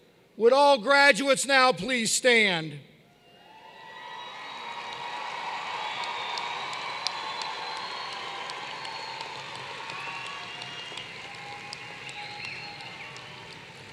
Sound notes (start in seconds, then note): 4.1 applause